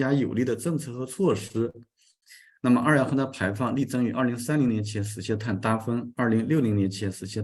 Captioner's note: continues to speak in Chinese